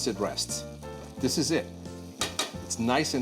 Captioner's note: taps spoon